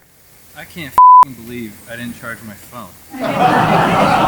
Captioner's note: beep; crowd laughing